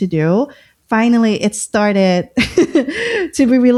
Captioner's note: laughter